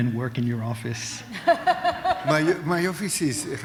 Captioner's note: laughter